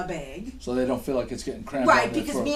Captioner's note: voiceover